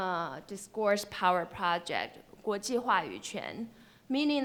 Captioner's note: speaks foreign language